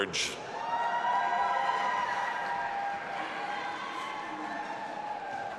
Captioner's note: audience applauding and cheering